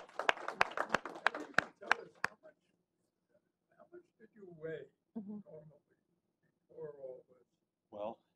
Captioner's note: applause